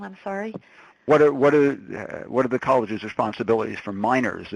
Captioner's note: voiceover